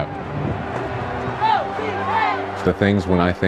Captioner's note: cheerleaders chanting